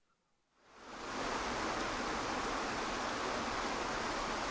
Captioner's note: waterfall rushes